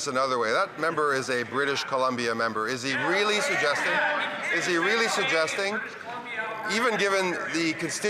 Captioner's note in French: voix de l'interprète